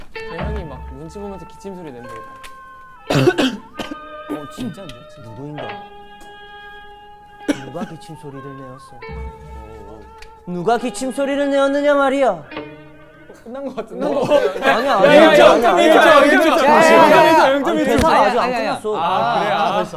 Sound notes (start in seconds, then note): 3.0 Retainer: cough, cough, cough